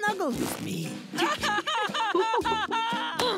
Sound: laughing

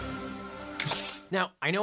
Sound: helmets whoosh

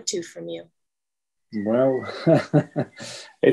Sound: chuckles

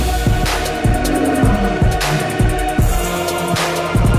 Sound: evil roar

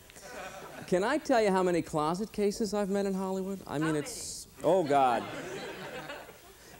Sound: laughter

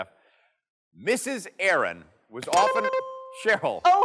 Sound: dings

